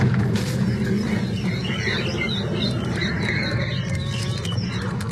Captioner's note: whining